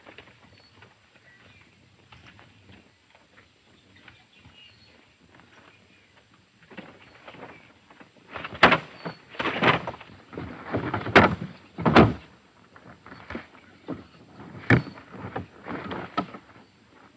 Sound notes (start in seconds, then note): 11.8 thumping